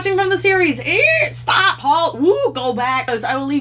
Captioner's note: screeches